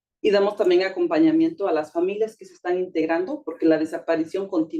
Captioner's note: speaking Spanish